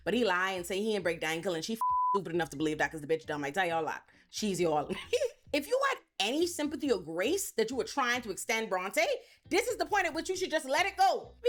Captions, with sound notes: But he lie and say he ain't break the ankle and she (beep) stupid enough to believe that because the bitch done my tie a lot. Cheesy all of them. If you had any sympathy or grace that you were trying to extend Bronte, this is the point at which you should just let it go.